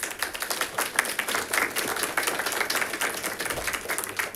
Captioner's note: audience applauding